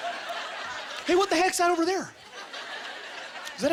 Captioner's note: audience laughter